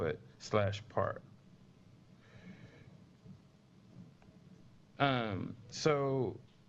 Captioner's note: pause